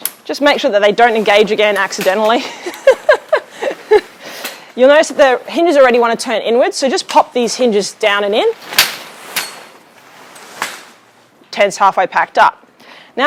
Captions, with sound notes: Just make sure that they don't engage again accidentally (laughing) you'll notice that the hinges already want to turn inwards, so just pop these hinges down and in. (tent collapsing) Tents half way packed up.